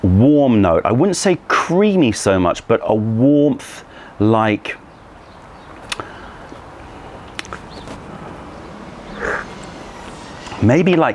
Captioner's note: sips tea